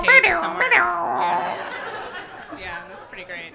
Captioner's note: continues impression of dial-up modem sound